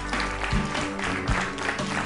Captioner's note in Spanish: Aplausos